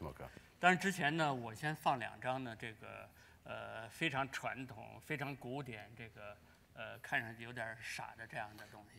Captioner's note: speaking in Chinese